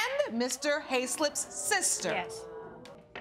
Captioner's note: audience clamoring